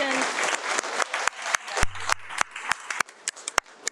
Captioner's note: attendees applaud